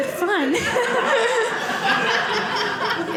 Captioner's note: audience laughing